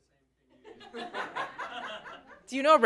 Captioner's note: laughter